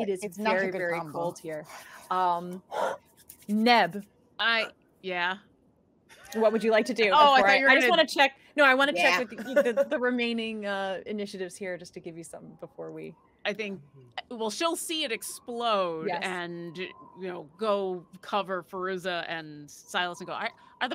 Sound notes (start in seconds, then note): 2.8 Maeve exhales; 7.0 chuckles